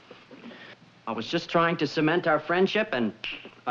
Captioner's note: clicks